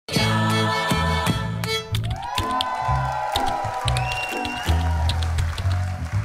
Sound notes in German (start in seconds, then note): 0.0 Schwungvolle Musik; 2.0 Jubel